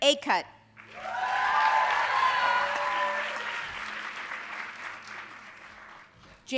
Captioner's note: audience cheering and applauding